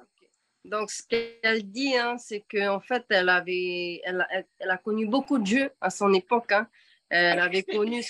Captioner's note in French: En français